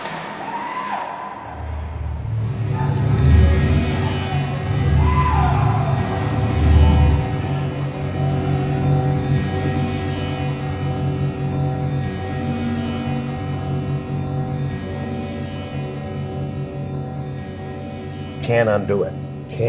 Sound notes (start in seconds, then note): 1.4 bars clanking; 2.4 screaming; 4.4 electrical buzzing